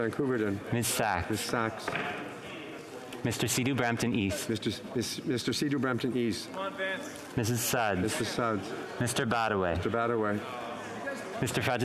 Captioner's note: speaking Frenc